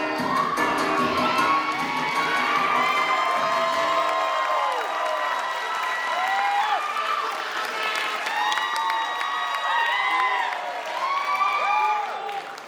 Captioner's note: applause